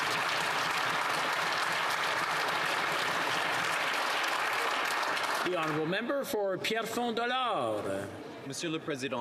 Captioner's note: some Applause